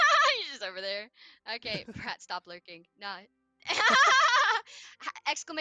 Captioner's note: laughter